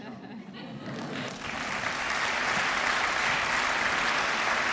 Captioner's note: applause